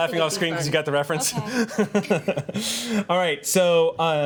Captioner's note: laughs